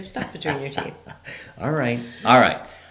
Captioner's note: laughs